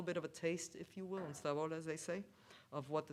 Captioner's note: speaks foreign language